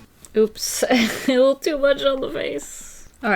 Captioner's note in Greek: γελάει